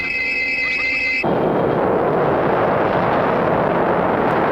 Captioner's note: explosion